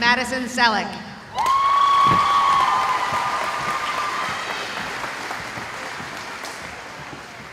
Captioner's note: cheering